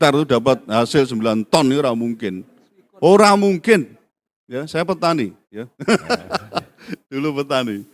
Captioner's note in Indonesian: tertawa